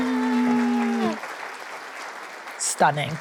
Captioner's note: audience applauding